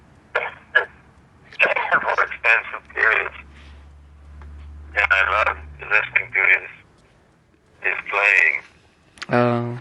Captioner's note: coughing